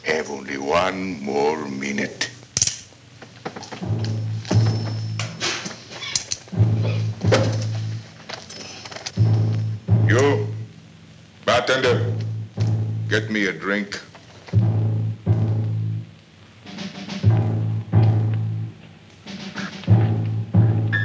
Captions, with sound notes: have only one more minute. [gun clicks] [suspenseful orchestral music] You, Bartender. Get me a drink.